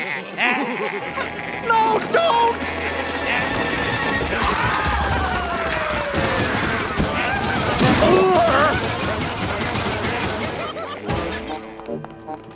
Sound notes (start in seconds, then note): 0.1 laughing; 6.8 crashing